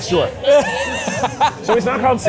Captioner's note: laughs